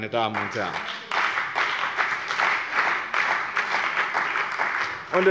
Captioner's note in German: Beifall bei dem BÜNDNIS 90/DIE GRÜNEN und der CDU